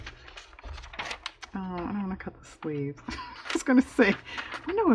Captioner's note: laughs